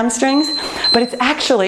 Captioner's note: timer beeps